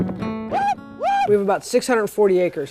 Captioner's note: yelling